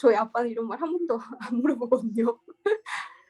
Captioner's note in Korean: 웃음